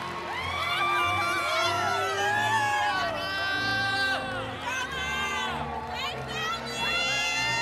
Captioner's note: cheering continues; inspirational music